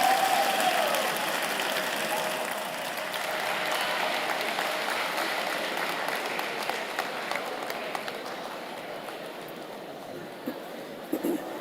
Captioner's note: applause